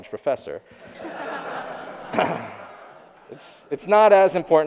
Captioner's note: audience laughing